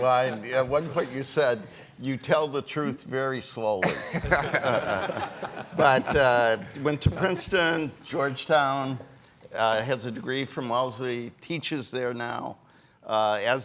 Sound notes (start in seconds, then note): 3.8 all laughing